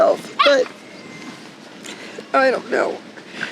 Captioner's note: dog barking